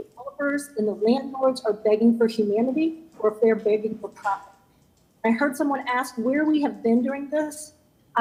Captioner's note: ~audio distortion~